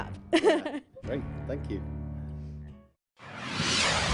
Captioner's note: laughs